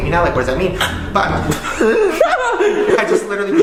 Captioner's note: chokes; wheeze and laugh